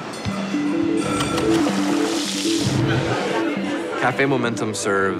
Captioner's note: ambient restaurant noises